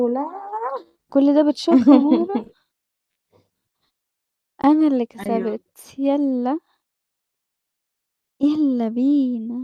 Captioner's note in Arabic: ضحك